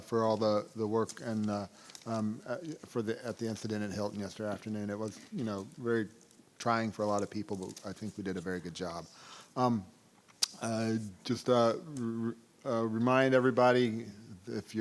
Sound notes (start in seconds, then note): none